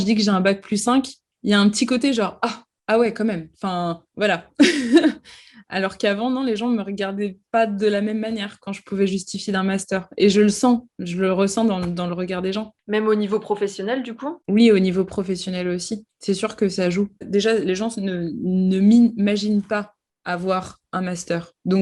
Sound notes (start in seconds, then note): 4.3 laughs